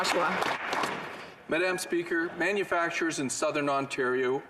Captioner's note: some Applause